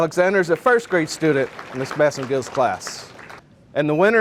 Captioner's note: audience applauding